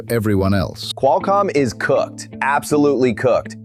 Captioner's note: excited